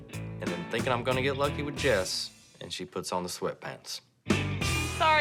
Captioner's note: none